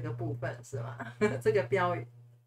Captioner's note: haha